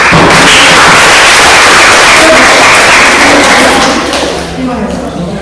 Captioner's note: claps